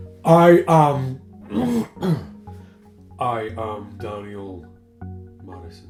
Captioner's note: clears throat